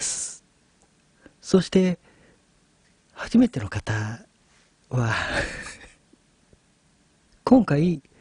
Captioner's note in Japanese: 笑い